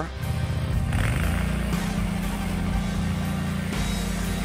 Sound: trencher revving

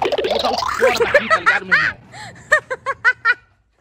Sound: laughs

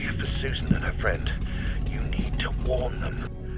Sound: boat slows down

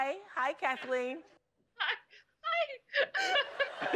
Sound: laughs; laughter

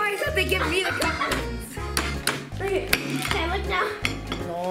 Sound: giggles

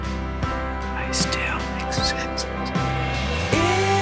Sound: whispering

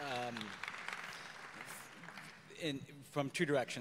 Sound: audience applause

